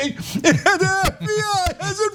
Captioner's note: laugh